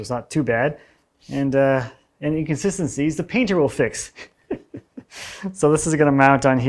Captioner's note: chuckles